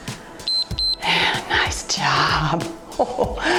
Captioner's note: timer beeps